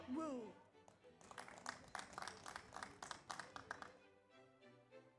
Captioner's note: audience applauds